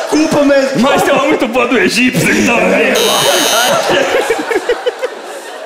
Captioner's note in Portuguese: campainha